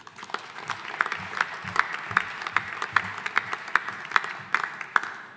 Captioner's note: audience applauding